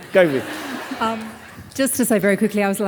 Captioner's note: audience laughing